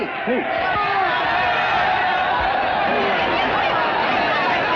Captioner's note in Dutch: boos geklets